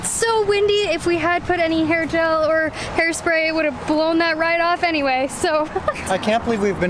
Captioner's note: laughter